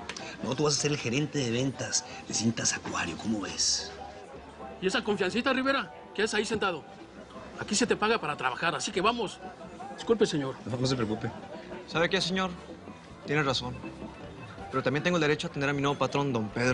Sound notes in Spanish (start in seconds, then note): none